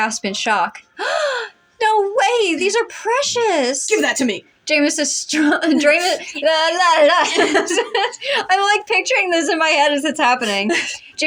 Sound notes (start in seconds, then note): 1.0 gasp; 6.8 laugh; 6.8 blubber; 7.2 both Laugh; 10.9 laugh